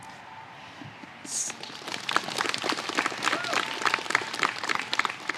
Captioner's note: applause